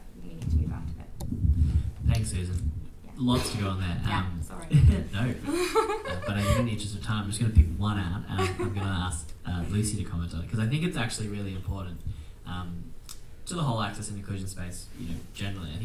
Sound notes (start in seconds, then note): 5.4 chuckles